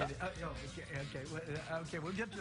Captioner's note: stammering